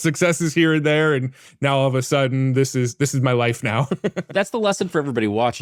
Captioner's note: laughs